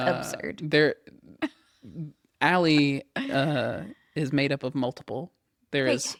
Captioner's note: laughs